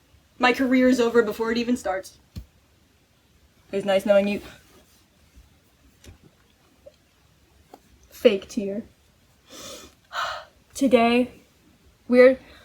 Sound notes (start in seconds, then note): 9.4 sniffle; 9.4 exhale